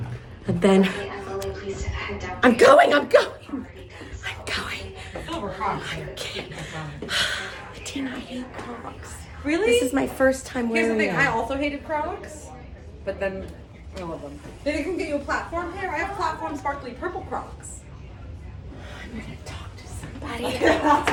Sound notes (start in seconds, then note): 1.3 loudspeaker; 5.8 panting; 7.7 sighs; 20.3 laughs